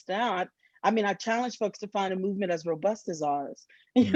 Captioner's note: laughs